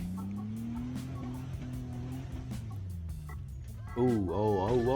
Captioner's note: car engine roaring